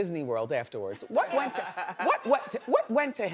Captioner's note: laughs